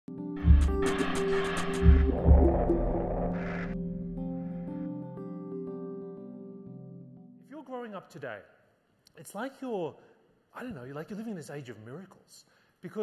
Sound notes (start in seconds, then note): 0.1 gentle music; 2.4 logo whooshing